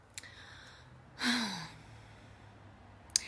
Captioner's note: sigh